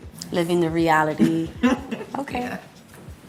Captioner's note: laughs